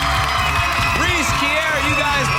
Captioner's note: girls cheering